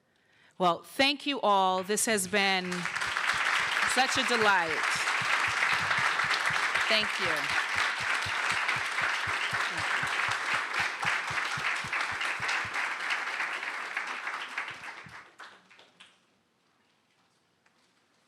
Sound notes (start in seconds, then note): 4.6 applause; 7.6 applause